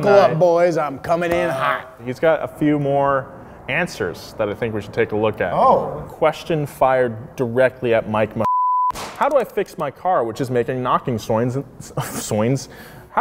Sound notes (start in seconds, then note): 8.4 beep